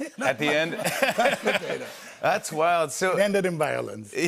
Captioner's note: laughs